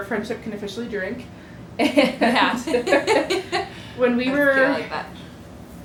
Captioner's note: laughter